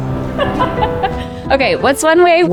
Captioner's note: speaker laughs